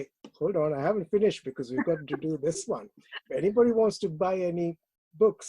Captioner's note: laughs